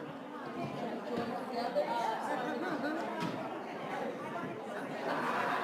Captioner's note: students chattering